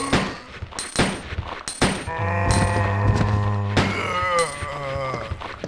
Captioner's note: gunshots